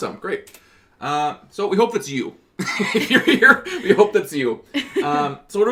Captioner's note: laughter